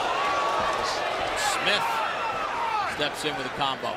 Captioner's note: crowd reacts